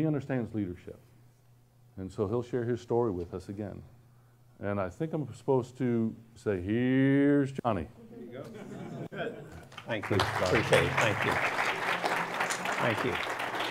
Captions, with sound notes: But he understands leadership. And so, he'll share his story with us again. And I think I'm supposed to say here's Johnny. (audience laughs) - Thank you, appreciate it. (audience applauds) Thank you. Thank you.